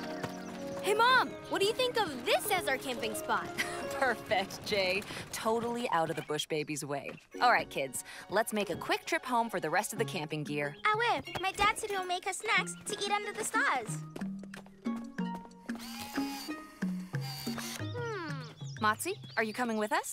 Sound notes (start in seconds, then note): 3.5 chuckles